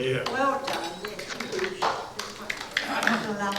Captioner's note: applause